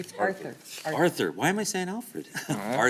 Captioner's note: laughter